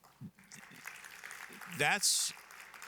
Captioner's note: applause